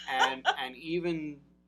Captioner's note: laughs